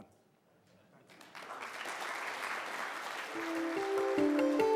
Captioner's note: audience applauds; soft music